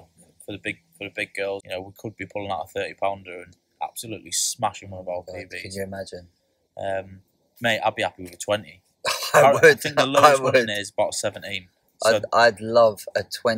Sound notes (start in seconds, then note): 9.0 chuckling